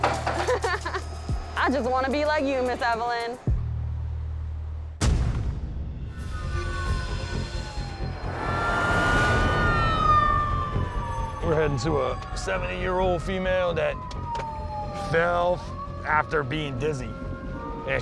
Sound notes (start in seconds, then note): 0.3 laughs; 8.4 siren wailing